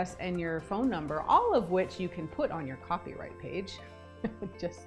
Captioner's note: chuckling